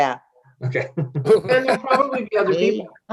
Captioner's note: members laughing